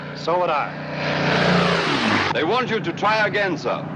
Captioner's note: aircraft roars